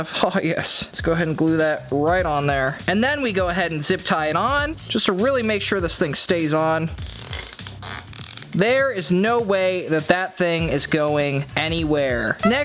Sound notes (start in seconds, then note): 7.0 tie zipping